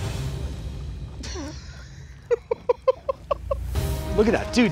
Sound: laughs

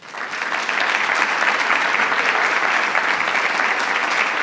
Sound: attendees applauding

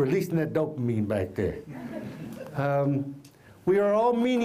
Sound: laughter

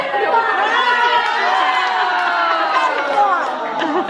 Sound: cheering

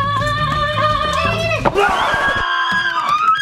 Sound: screaming

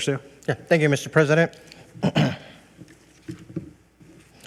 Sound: clears throat

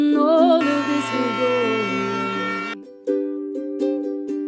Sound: machine grinding

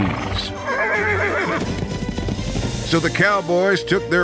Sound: horse whinnies

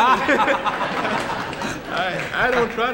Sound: laughing; scattered applauding

